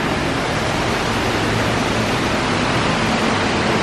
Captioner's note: water rushing